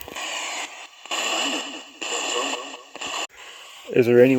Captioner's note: ghost box buzzing